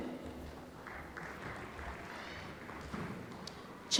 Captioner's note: applause